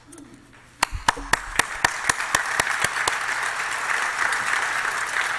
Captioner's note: applause